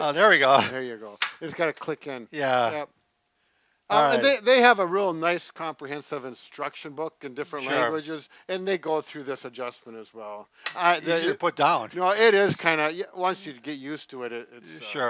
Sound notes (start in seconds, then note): 1.2 metal clicking